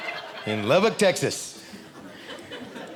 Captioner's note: audience laughing